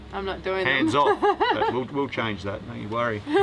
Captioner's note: laughs